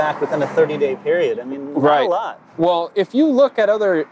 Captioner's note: murmurs